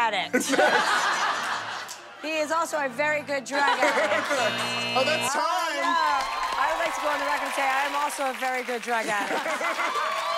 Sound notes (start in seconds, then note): 4.2 buzzer